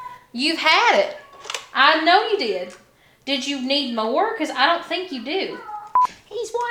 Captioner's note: cat noises; cat noises